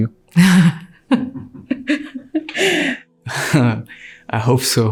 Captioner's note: interviewee laughs